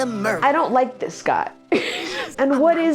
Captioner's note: laughs